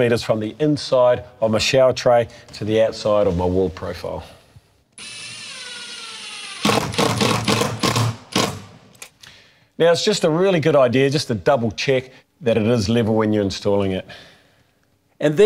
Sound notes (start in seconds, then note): 4.9 drilling